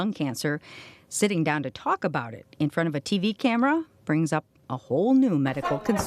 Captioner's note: laughing